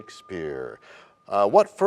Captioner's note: bell rings, time expires